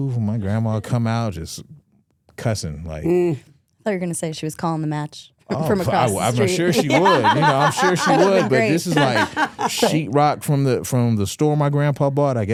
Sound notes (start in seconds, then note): 7.8 hosts laughing